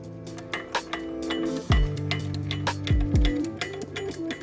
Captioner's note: chill music; spanner clanking